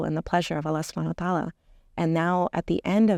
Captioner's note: speaking Arabic